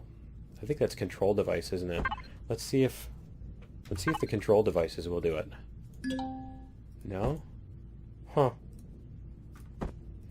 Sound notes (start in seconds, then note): 6.0 ding